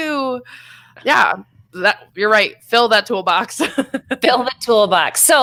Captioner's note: laughs